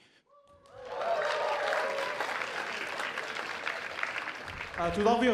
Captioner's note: cheers and applause